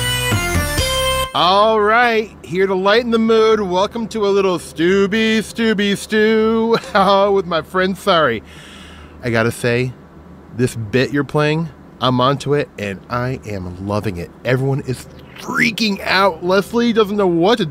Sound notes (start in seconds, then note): 6.5 laughs